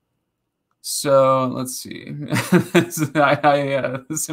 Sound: laughing

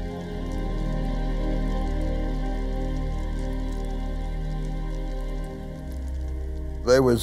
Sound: fire

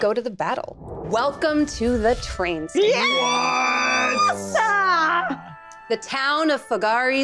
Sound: group exclaiming

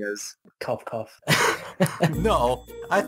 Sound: cough cough

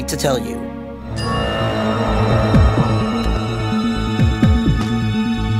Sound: intense ringing and buzzing

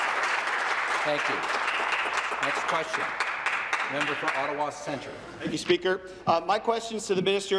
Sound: applause

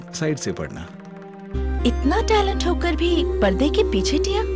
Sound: speaking in native language

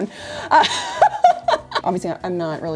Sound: laughs

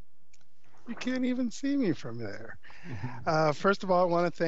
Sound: chuckles

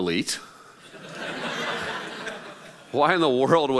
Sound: laughing

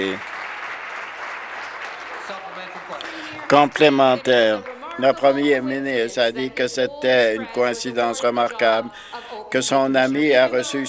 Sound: some Applause

